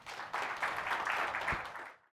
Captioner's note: audience applauds